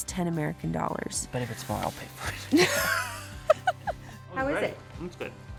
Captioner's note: both laugh